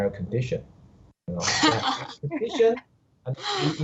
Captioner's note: laughter